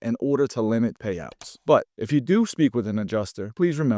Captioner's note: screen clicking